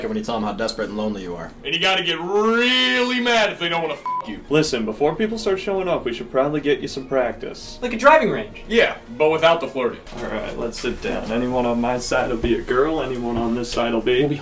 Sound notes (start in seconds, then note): 4.0 beep